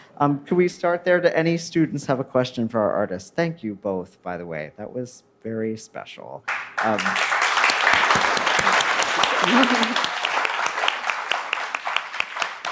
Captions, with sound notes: Can we start there? Do any students have a question for our artists? Thank you both, by the way. That was very special. (audience applauds)